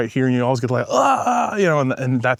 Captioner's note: groans